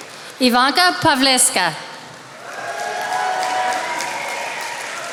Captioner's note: attendees applauding